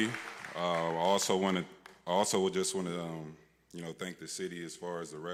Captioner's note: applause